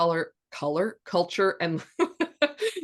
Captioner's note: laughs